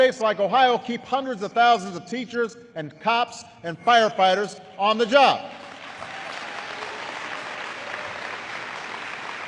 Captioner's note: applause